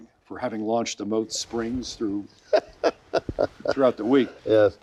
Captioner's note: laughing